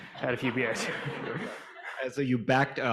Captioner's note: audience laughing